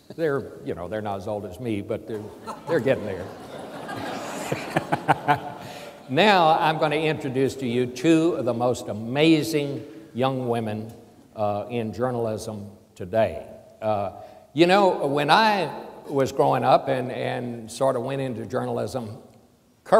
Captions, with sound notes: They're not as old as me but they're gettin' there. (audience laughs) Now I'm going to introduce to you two of the most amazing young women in journalism today. When I was growing up and went into journalism,